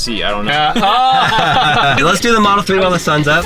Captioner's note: laughing